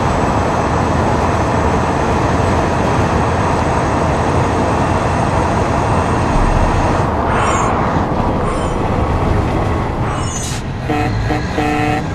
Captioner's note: gunfire